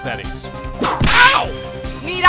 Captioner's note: whip crack!